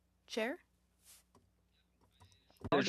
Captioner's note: speaking French